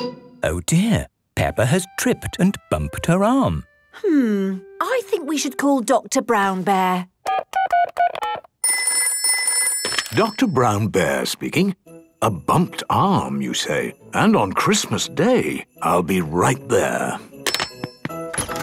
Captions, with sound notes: - Oh, dear. Peppa has tripped and bumped her arm. - Hmm... I think we should call Doctor Brown Bear. - (dial tones beeping) - (ringing) - Doctor Brown Bear speaking... A bumped arm you say? And on Christmas day! I'll be right there!